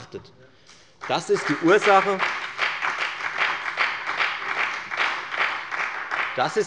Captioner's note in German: Beifall bei der FDP und bei Abgeordneten der SPD